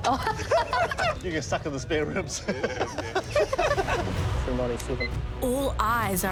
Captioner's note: laughter